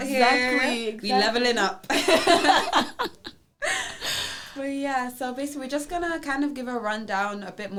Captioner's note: both laugh